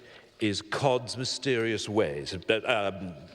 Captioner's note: none